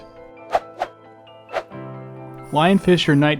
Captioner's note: woosh woosh